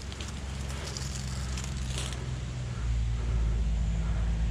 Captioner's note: engine humming